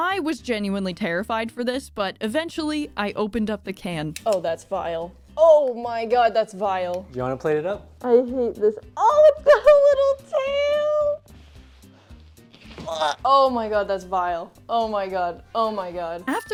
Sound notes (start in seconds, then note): 12.7 gag